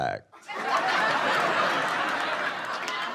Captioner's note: laughter